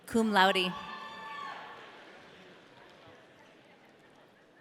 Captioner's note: audience cheering